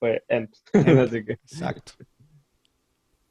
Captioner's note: laughter